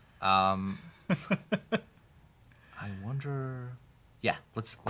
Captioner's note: chuckles